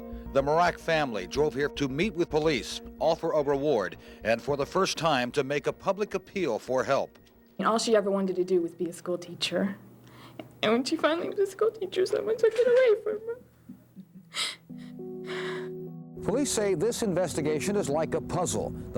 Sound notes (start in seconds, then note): 14.3 crying